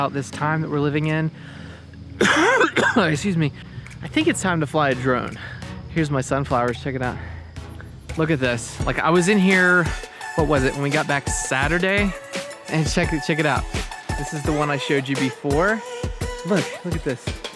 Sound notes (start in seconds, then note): 2.2 coughs